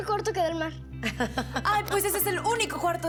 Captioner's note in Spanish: Risas